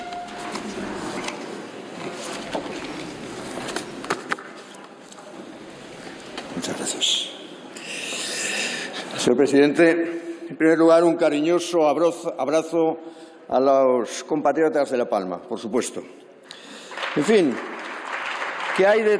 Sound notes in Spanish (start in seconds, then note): 16.6 Aplausos